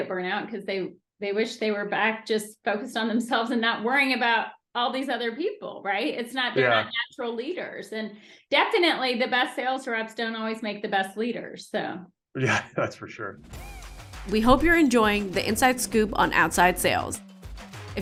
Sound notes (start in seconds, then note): 12.4 laughing; 13.5 upbeat music